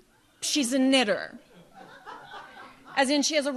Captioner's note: audience laughs